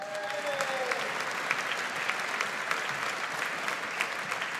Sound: audience applauds

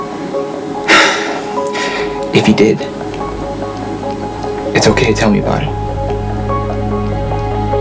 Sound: sighs

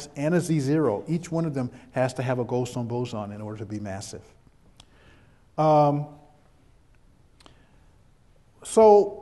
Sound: pause

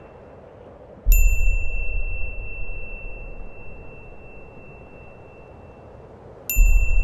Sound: wind blowing; beep

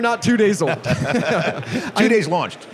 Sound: laughter

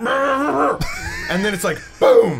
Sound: laughs

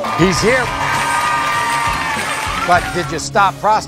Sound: audience applauding; cheering

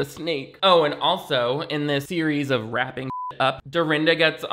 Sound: beep

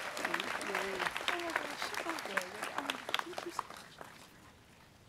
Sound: students clapping

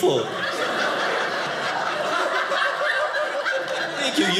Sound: audience laughing

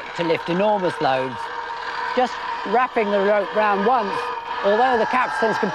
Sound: motor noise

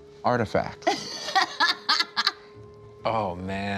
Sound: laughs

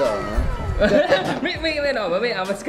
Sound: both laughing

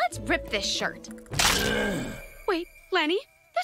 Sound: moaning

